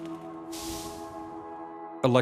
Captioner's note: sparks crackle; steam spews